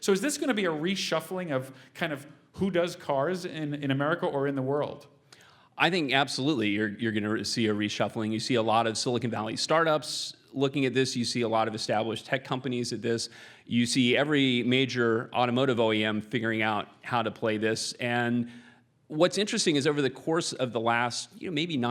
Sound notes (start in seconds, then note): none